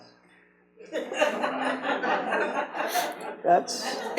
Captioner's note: audience laughs